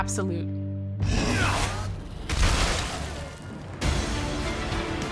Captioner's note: grunting and smashing